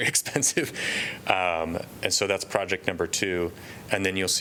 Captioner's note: laughter